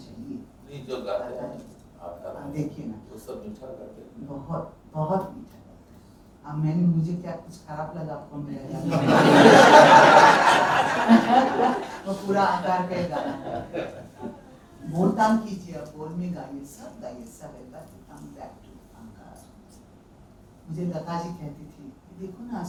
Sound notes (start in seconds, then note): 8.8 everyone Laughs